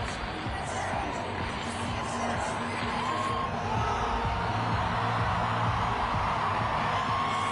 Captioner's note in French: Cris de la foule